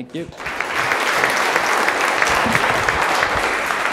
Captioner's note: applauding